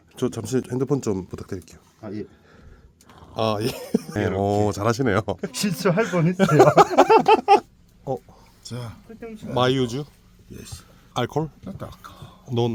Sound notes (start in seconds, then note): 5.5 hahaha